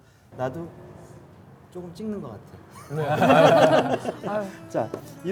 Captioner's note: laughing